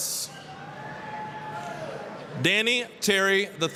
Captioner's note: applause, cheering